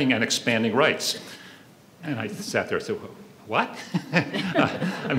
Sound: laughs; audience laughs

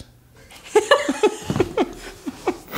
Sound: laughter

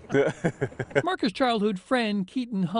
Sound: chuckles

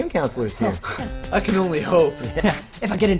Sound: laughs

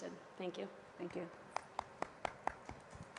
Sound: applause

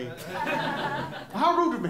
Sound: laughter

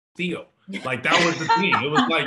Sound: all laugh

